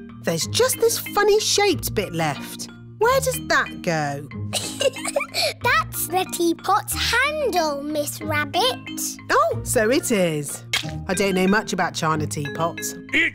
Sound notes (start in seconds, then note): 4.5 giggles